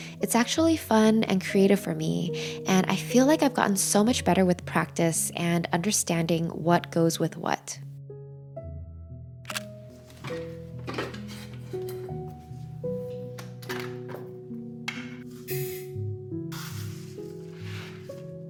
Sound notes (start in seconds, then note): 8.6 gentle music; 10.8 rice cooker clinking; 13.8 container clicking; 16.6 rice rustling